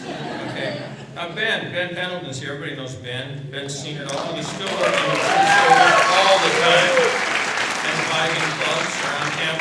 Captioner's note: applause